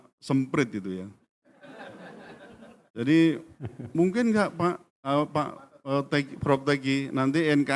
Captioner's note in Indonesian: tertawa